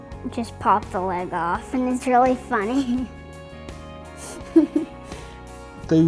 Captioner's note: laughter